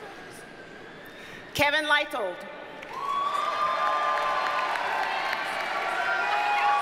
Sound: audience cheers and applauds

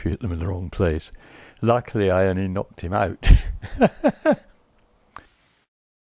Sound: laughs

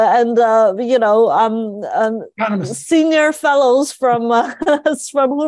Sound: laugh

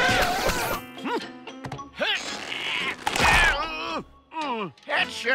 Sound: screaming; groaning

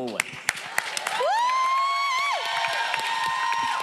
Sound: audience cheering

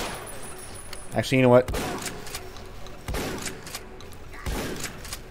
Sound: shotgun craziness

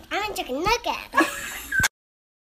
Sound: laughter

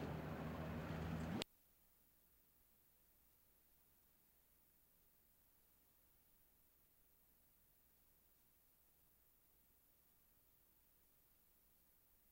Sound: street noise; silence

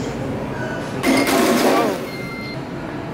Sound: crash

